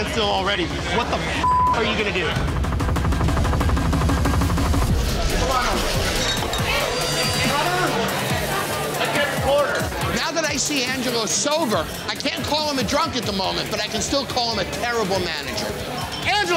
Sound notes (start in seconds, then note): 4.8 loud chatter